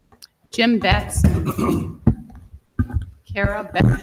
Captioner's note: board member clears throat